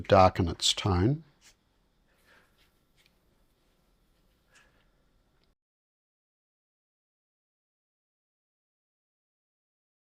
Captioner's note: silence